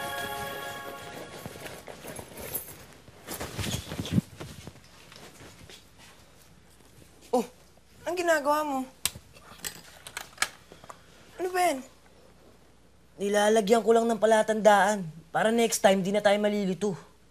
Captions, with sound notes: [rattling] What are you doing? What's that? I'm just putting a mark so we will not be confuse next time.